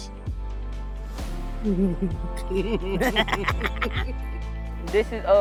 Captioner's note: laugh